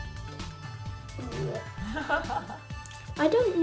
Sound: ha ha ha

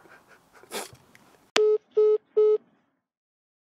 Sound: hang up tone

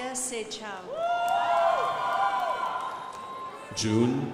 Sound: crowd applauding

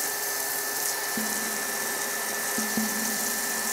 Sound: echoing drops

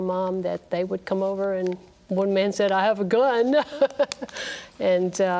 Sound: laughs

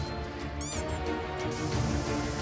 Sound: soft squeak■

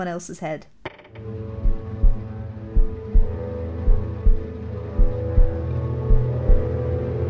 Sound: door creaks open; heart beats; spooky music; upbeat music

